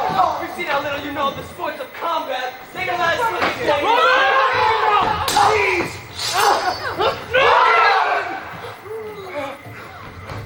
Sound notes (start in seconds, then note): 3.9 screams; 5.2 swords clash; 6.6 yelling